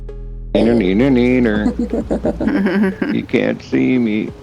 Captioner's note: laughter